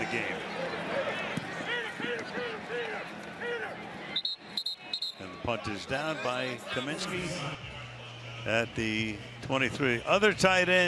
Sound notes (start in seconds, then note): 4.1 whistle